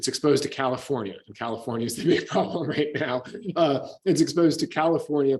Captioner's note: laughs